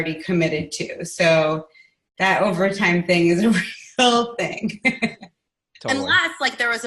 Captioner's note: laughing